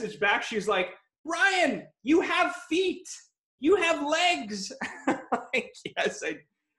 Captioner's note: laughs